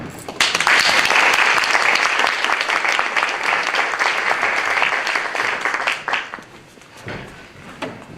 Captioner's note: applause